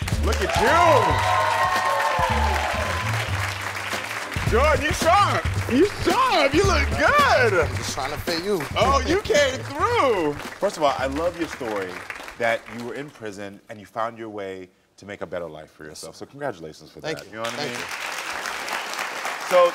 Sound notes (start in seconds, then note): 0.0 crowd clapping; 0.0 upbeat music; 2.4 crowd cheering; 17.2 crowd clapping